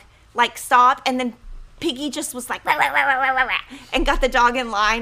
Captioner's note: imitates dog barking